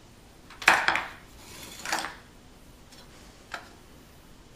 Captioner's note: sound of electrode hitting the table